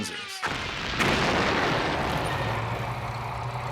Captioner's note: bombs explode